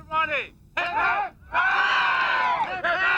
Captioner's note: crowd